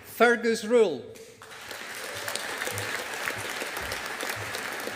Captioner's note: audience applauding